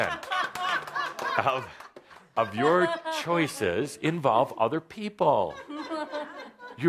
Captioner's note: laughter